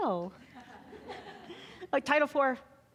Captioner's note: audience laughing